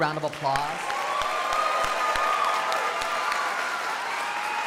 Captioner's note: crowd applauding